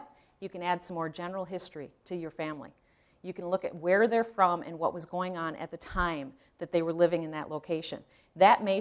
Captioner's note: none